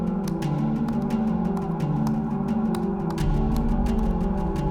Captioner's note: keyboard clicking